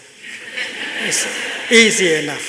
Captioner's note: laughter